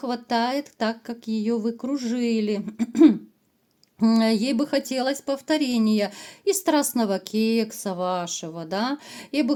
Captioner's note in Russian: откашливается